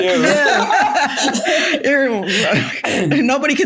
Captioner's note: everyone laughing